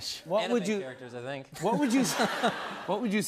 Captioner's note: laughter